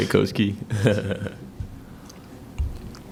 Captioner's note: laughs